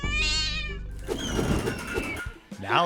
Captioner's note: cat meows; wind whooshes; wheel screeches